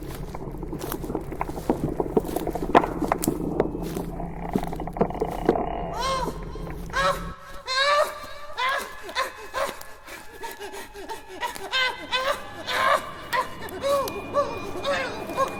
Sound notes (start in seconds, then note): 5.7 Mr. Punch cries in terror; 8.6 Mr. Punch cries out in terror